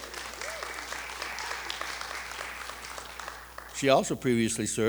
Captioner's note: audience applauding and cheering